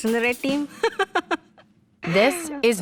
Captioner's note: laughs